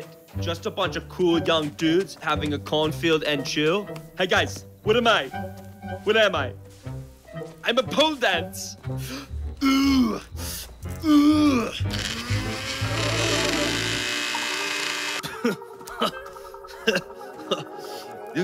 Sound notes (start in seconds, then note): 9.6 grunts; 15.2 chuckles